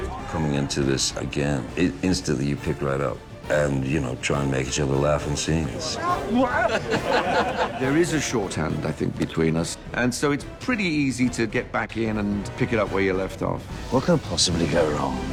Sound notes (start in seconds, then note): 5.8 exclaims; 5.9 all laughing